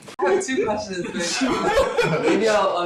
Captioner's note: laughter